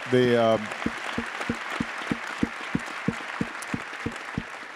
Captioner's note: attendees applauding